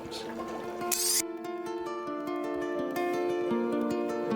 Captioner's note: camera flashing